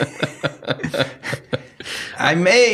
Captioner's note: laughing